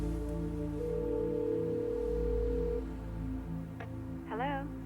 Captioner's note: phone ringing